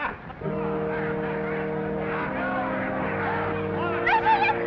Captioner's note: playful music; waiter laughs; attendees chattering; somber music